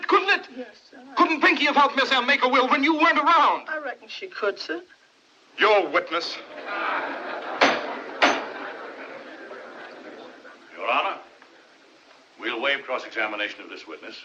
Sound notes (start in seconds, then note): 6.3 spectators Laughing, Murmuring